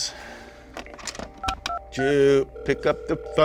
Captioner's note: pushing phone buttons